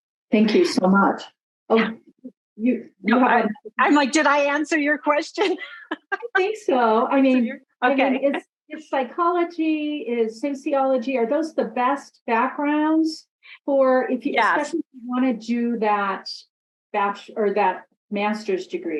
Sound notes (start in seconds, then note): 5.4 laughs